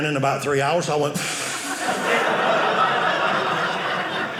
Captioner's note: inhale; audience laughing